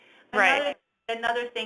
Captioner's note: voiceover